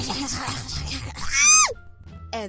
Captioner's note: creepy Crawly Noises; scream